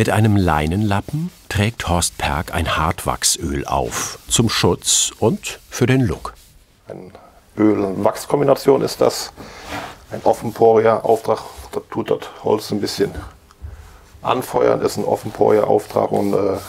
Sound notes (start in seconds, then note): none